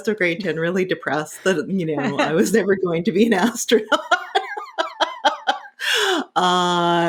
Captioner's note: laughing